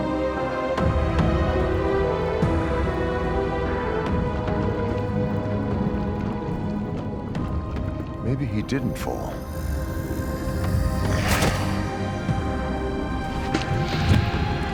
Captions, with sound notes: (dramatic music continues) (liquid bubbling) - Maybe he didn't fall. (dramatic music continues)